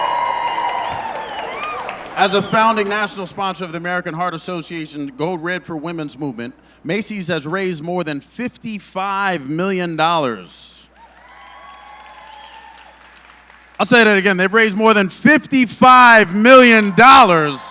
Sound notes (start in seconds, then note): 3.9 applause; 10.9 cheering